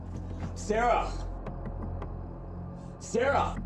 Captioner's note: knocking on door